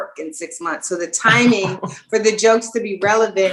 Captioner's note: laughing